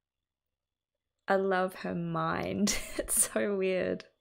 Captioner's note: laughs